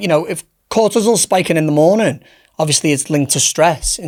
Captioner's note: none